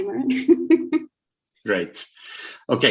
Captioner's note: laughs